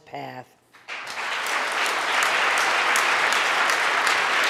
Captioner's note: audience applauding